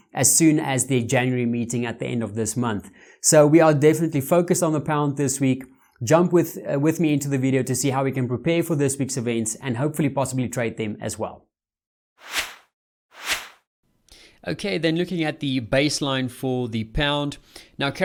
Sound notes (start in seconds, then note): 12.2 air swishing